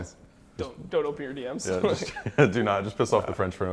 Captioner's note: laughs